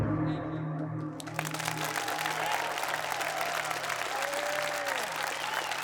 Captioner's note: audience applauding